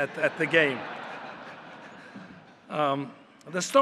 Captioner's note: laughter